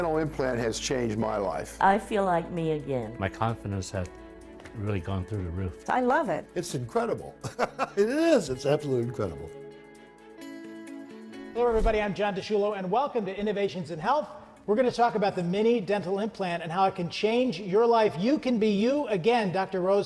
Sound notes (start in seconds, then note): 7.4 laughs; 11.6 upbeat music